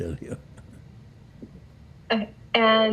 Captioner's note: laughing